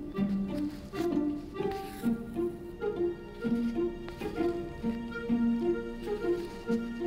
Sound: classical music; fabric rustling

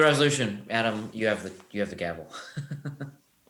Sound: laughs

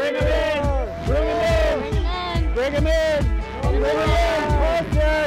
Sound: everyone cheering

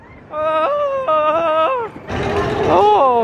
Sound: screams

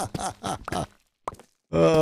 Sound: laughs

